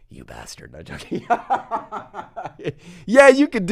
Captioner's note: laughs